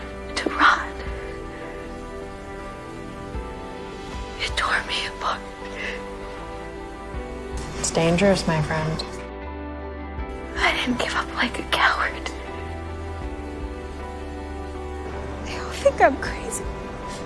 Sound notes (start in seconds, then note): 10.6 voiceover